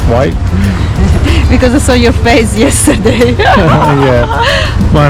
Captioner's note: laughing